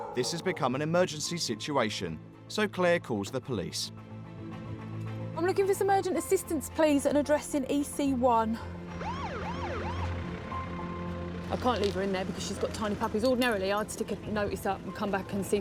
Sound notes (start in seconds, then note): 8.9 police sirens